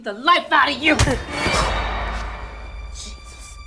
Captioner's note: loud thud